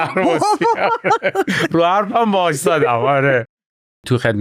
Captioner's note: laughs